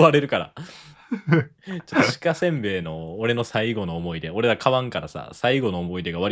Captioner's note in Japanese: 笑い